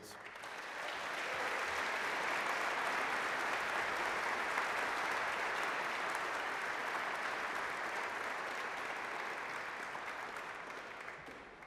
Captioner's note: applause